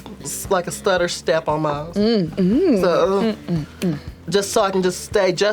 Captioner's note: hums